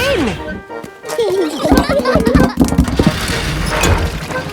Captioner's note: children giggling